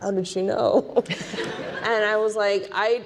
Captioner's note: audience laughing